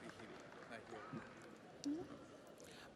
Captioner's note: audience applauds